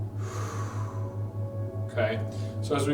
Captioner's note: inhales; exhales